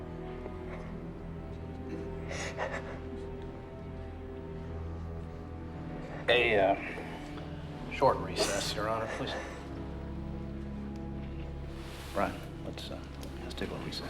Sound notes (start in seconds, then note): 0.1 sobs